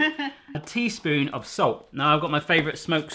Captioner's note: laughing